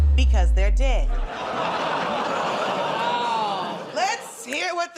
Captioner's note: laughter